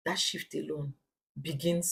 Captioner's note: paause